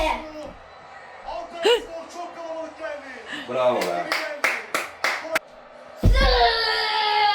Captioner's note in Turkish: alkış